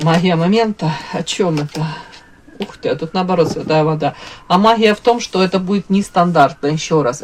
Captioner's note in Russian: вздыхает